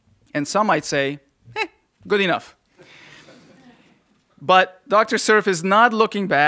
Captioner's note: laughter